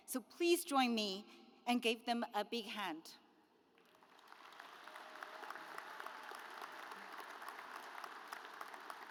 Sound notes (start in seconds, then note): 3.8 audience applauds